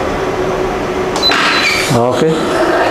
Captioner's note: press machine sound